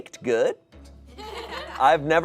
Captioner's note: audience laughing